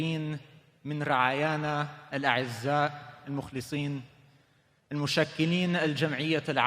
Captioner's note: speaking foreign language